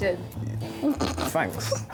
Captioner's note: laughs